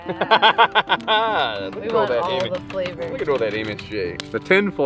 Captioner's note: laughs